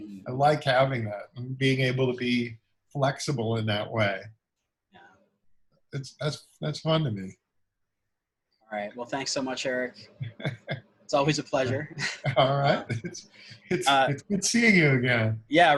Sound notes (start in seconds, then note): 10.2 laughs